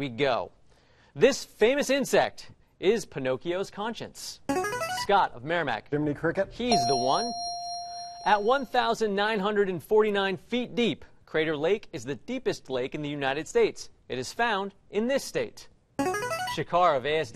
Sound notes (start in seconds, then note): 4.5 buzzer plays; 6.7 ding; 16.0 buzzer plays